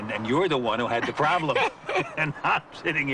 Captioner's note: both laughing